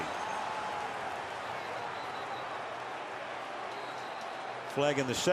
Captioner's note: crowd cheering